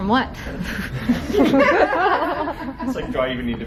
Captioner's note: laughter